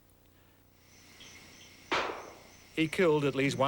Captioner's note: gun shot